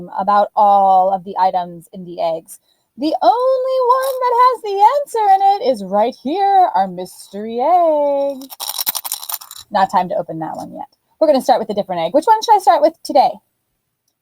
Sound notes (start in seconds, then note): 8.2 rattling